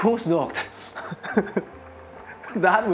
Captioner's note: chuckles